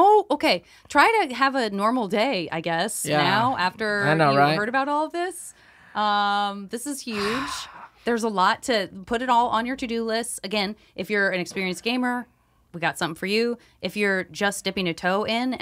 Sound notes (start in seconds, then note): 7.1 sighs